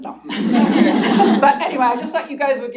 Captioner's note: laughter